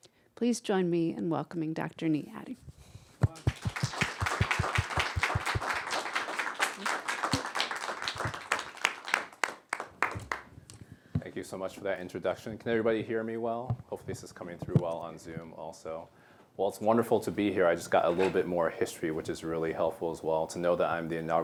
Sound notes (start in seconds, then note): 3.3 applause